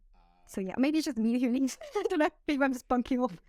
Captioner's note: laughter